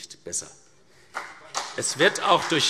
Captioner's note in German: Beifall CDU und BÜNDNIS 90/DIE GRÜNEN